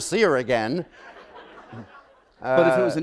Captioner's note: laughter